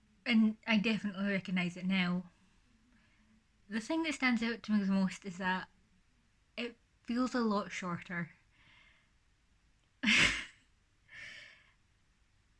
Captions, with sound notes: And I definitely recognise it now. The thing that stands out to me the most is that it feels a lot shorter. [laughs]